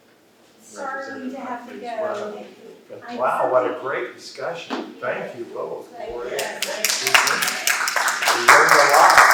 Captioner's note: applause